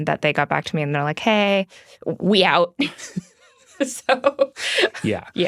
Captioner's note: laughs